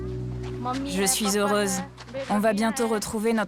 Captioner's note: foreign language spoken